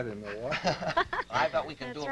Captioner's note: laughter